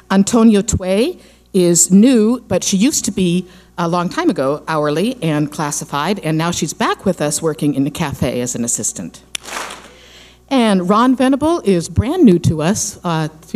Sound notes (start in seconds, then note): 9.4 clap smack